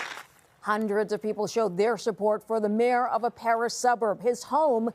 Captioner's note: applause